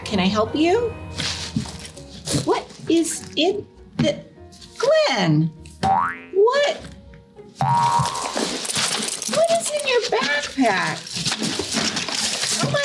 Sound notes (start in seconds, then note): 6.9 toys boing; 7.6 objects clattering